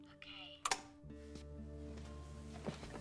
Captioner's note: clicks off